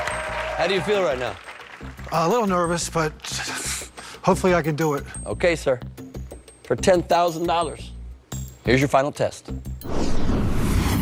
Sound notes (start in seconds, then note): 0.0 cheers and applause